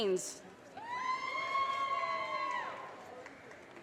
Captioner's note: audience cheers and applause